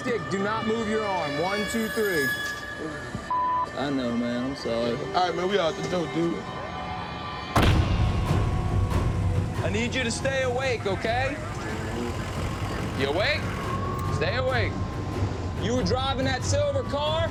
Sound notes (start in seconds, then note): 6.5 dramatic music playing; 11.3 truck idling